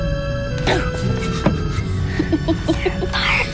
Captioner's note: laughs